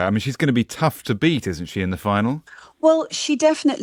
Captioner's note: none